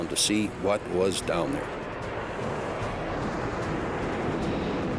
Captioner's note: jet engine noises